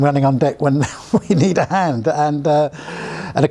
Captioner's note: laughs